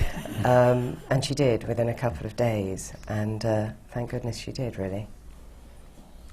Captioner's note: laughter